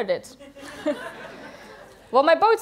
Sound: laughter

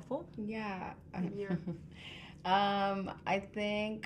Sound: woman chuckling

